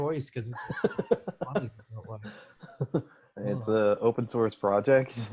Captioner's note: laughs